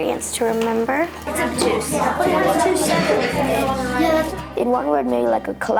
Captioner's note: kids chattering